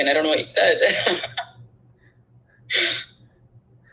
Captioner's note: laughing